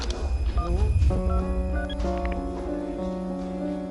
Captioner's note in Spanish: Sonido al marcar